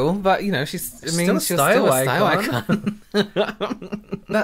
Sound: laughter

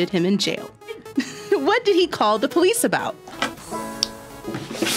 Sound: laughs; guitar strums

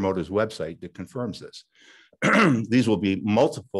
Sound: clears throat

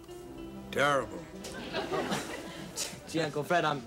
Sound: audience laughing

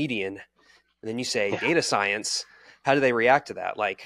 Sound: chuckling

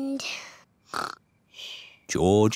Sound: snores

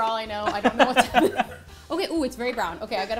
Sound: laughs

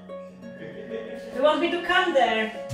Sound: laugh

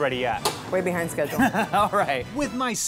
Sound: laughing

